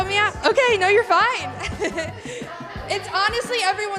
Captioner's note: laughs